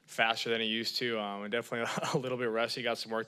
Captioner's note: laughs